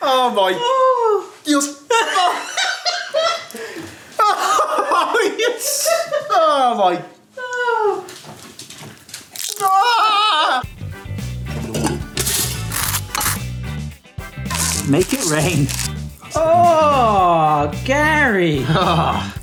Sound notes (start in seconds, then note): 2.7 cackles; 4.2 they laugh; 9.4 eggs squishes; 9.6 yells in frustration; 11.5 whimsical music; 11.6 knife scraping; 14.4 pepper mill grinding